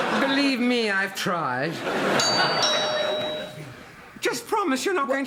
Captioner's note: doorbell